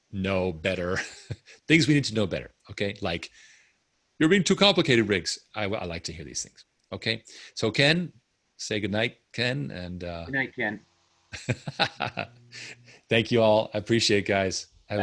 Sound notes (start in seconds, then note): 0.9 laughs; 11.3 laughing